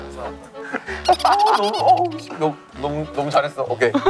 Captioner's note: laughing